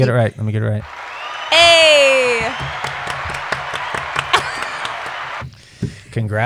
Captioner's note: applause track